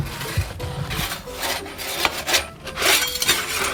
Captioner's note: scraping